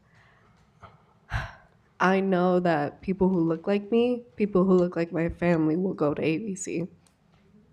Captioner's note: sharp sigh